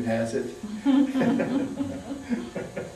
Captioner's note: laughter